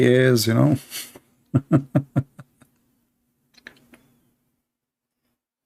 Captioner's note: Ketawa